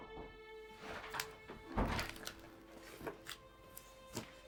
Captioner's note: door clicking